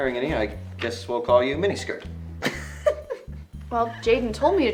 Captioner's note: laughing